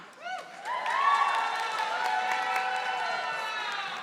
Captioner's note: audience applauding